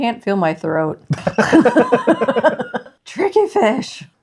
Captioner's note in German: Lachen